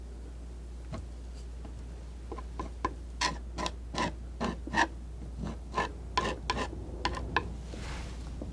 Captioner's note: scratching